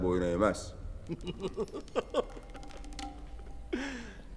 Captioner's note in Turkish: Gülme sesi